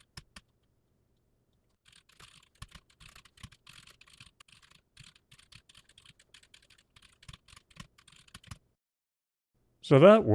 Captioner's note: typing sounds